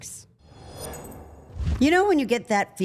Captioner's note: air whooshing